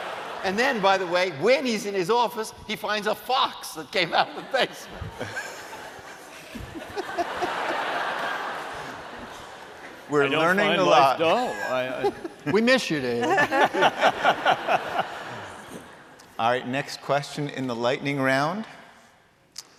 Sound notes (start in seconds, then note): 4.8 laughter; 14.9 laughter